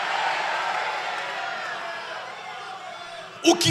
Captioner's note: applause